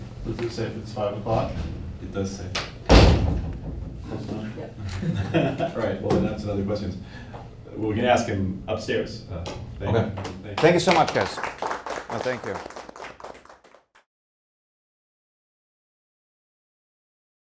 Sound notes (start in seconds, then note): 4.8 laughing; 13.1 audience applauding